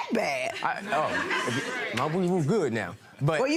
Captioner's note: laughing